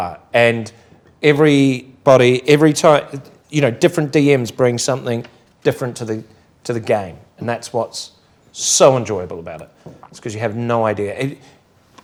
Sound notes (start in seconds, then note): none